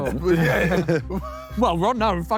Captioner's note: Sidemen laugh